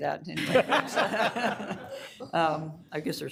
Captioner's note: all laughing